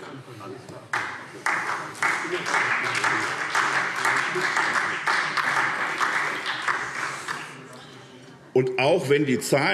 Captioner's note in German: Beifall SPD